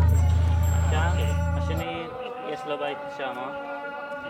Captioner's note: Hebrew spoken audio